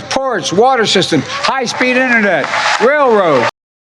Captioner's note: applause